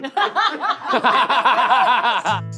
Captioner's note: all laughing